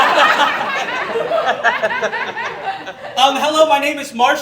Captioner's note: audience Laughing